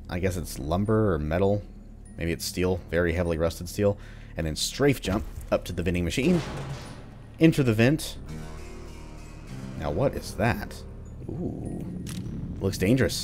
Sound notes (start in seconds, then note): 5.1 smash; 8.1 riff plays